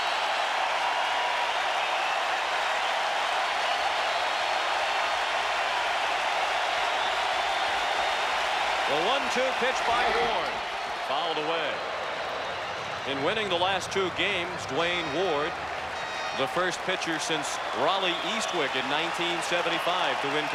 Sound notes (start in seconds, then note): 0.4 applause; 10.0 cheering and Applause